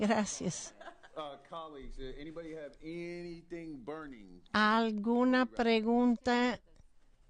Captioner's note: laughter